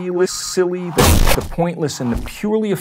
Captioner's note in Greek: η τσαρ μπόμπα εκρήγνυται